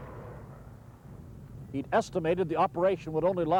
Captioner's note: mortar fire booming